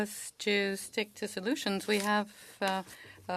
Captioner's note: speaking french